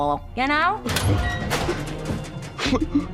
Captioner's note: locker squeaking open